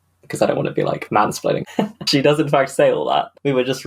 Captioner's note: laughs